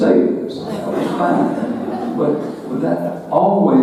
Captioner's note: audience laughing